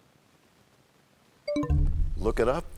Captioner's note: bell chimes, time expires